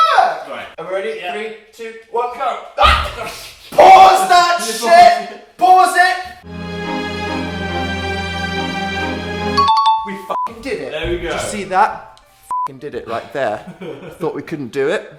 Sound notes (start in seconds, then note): 2.8 screaming; 6.4 sad music